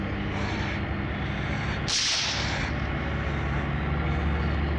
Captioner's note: gun firing